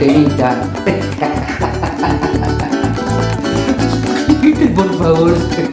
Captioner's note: laughs